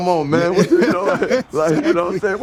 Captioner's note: laughing